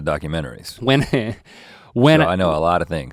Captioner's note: Link chuckling